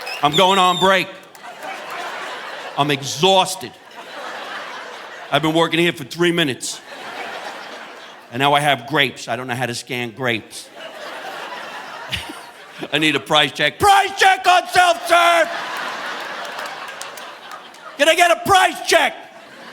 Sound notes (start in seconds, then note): 4.2 audience laughing; 10.7 chuckles; 16.3 audience laughing